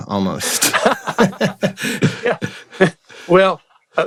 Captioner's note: laughter